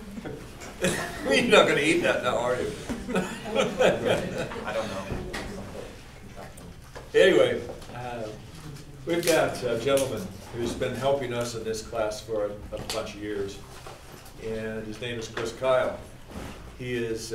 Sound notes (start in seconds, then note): 2.6 laughing